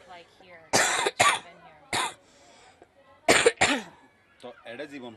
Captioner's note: coughs